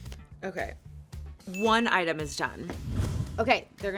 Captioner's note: whoosh